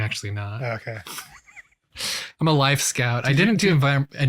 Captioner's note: laughs